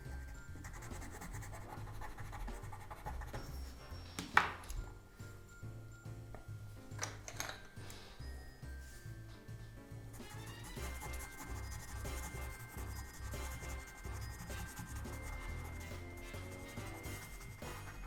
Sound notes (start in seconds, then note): 4.3 pencils tumbling; 10.1 pencil scratching